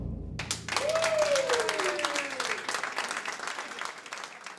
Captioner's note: clapping